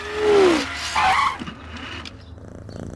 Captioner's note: brakes squealing; purring